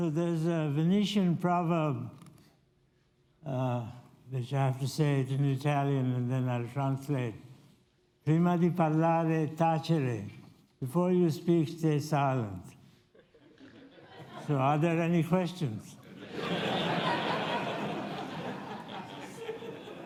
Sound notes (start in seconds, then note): 8.0 italian; 16.0 audience laughs